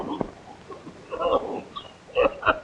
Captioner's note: muffled whimpering